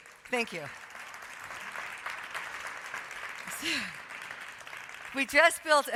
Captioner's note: audience clapping